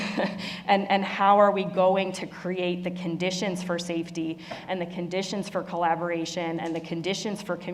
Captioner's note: laugh